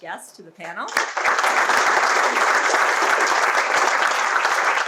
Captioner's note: audience applauds